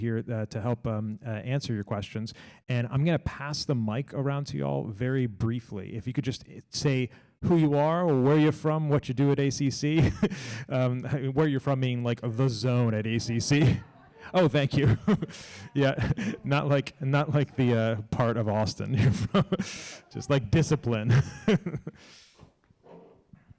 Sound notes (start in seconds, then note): 9.9 laughs; 14.2 laughs